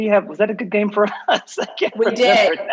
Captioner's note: laughs